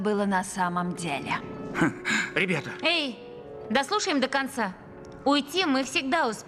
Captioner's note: scoffs